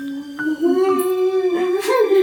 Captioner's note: cries